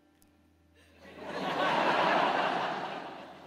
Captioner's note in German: Lachen